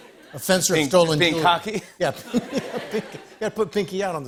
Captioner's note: laughter